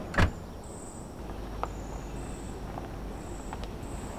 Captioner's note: door shuts